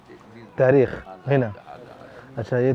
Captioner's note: Arabic